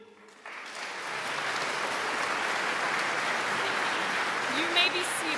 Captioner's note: audience claps